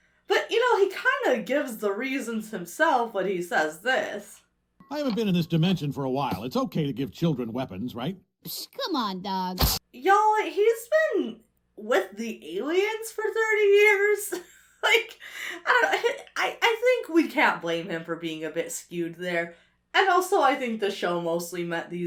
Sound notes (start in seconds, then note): 14.2 laughs